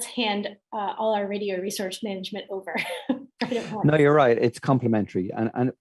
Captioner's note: laugh